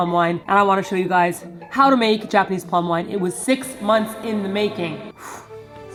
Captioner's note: exhales